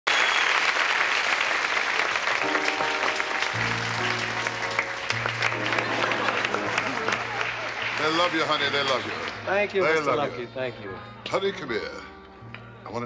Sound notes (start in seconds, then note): 0.1 audience applauds; 2.5 gentle music